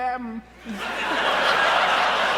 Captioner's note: laughter